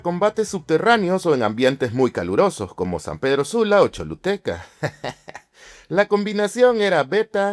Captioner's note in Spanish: risas